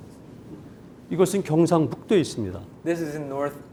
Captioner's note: speaking in Korean